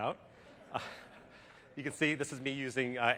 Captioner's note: laughter